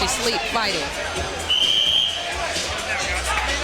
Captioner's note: whistle blows